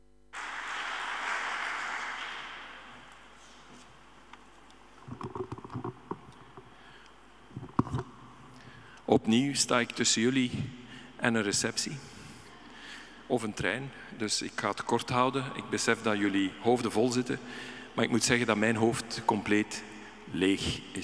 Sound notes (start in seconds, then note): 0.3 audience applauding; 8.9 speaking in Dutch